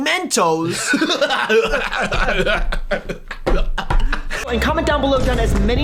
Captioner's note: mocking laughter